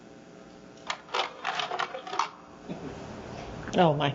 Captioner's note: video starts playing: sounds of a slide carousel